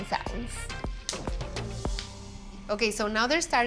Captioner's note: seeds popping